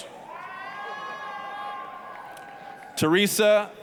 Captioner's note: applause, cheering